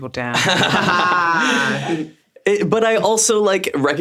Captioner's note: everyone laughs